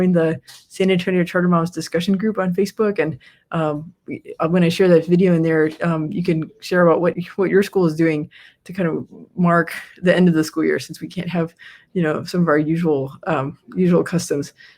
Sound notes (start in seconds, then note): none